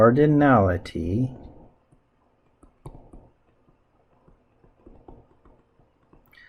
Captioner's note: writing Sounds